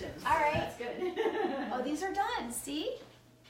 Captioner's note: laughing